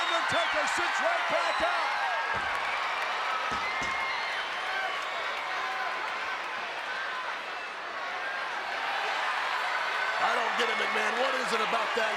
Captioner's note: applause